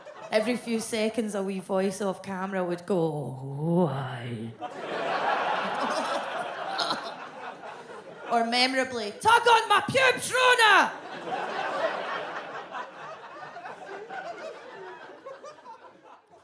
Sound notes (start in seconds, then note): 6.6 gags; 10.4 audience laughs